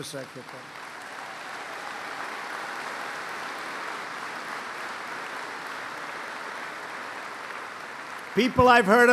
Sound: applause

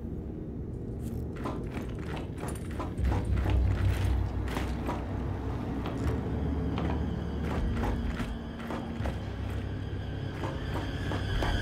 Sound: footsteps

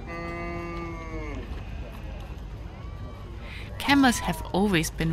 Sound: camel grunting

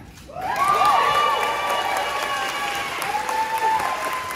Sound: crowd cheering

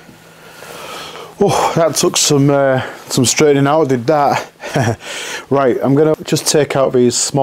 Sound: laugh

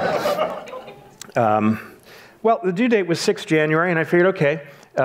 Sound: audience laughs

